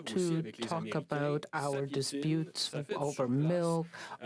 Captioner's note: speaking French